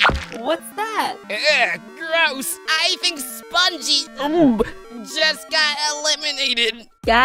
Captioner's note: nauseous sound